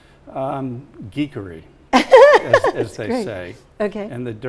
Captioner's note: laughs